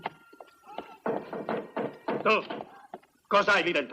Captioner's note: knocking